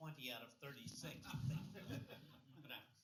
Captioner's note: laughter